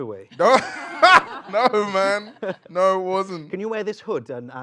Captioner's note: laughs